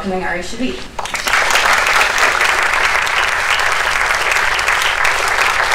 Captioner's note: applause